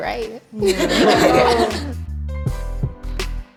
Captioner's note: laughing; calming music